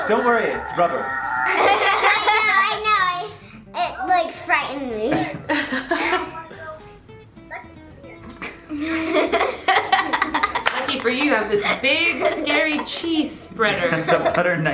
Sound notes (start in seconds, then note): 1.3 laughs loudly; 4.9 laughs softly; 8.6 laughs